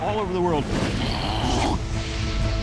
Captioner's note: imitating combustion